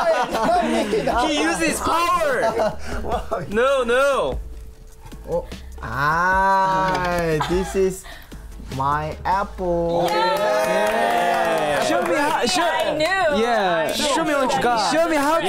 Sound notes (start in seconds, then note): 10.0 claps